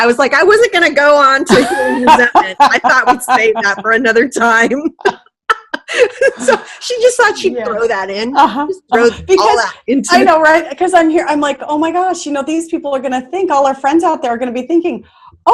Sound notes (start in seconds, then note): 5.5 laughing